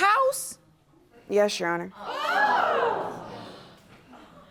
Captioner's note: audience gasping